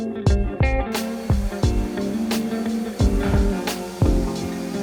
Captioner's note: machine whirring